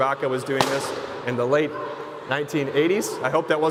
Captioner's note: balloon popping